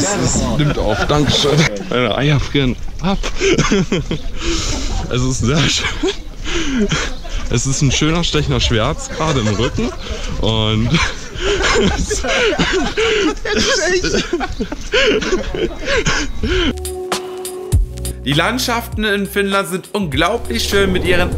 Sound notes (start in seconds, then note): 10.9 teacher is Laugh